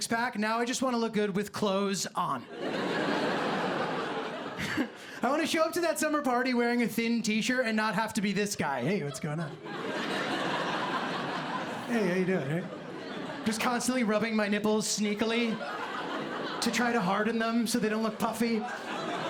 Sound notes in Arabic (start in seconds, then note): 2.6 ضحك; 4.6 ضحكة خافتة; 17.8 ضحك